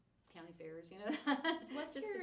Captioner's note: laughing